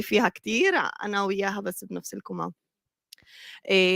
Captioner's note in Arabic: لغة أجنبية; لغة أجنبية